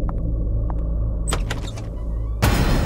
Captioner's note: Door opens